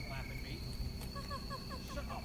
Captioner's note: wife laughing